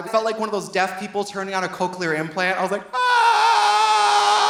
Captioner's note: screams